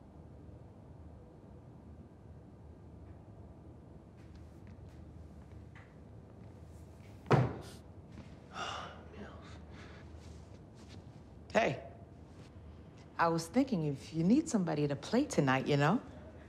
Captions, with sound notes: (thuds) (Rufus gasps) (sighs) Mills. Hey. I was thinking if you need somebody to play tonight, you know.